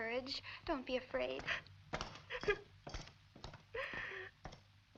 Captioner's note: footsteps thudding